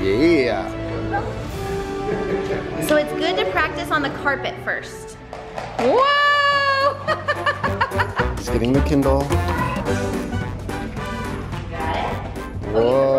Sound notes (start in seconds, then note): 6.6 laughing